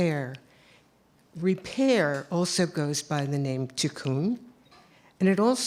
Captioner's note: non-english speech